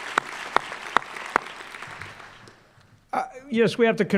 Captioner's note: applause